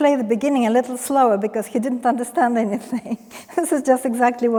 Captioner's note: chuckles